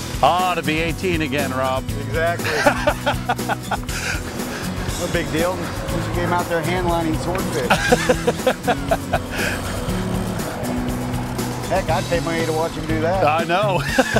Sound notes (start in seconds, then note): 7.6 laughs